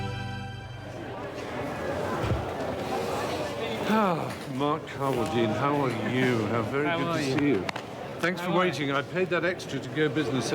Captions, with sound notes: (sighs) Mark Carwardine, how are you? How very good to see you. - How are you? - Thanks for waiting. I paid that extra to go business